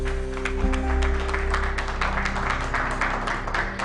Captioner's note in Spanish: Aplausos